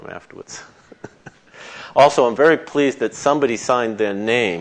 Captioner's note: chuckles